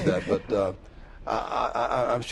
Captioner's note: laughter